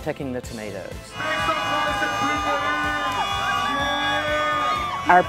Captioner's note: crowd noise